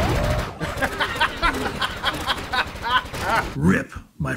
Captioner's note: bursts out laughing